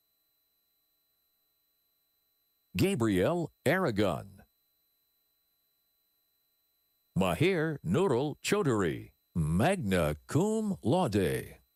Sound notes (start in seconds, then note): none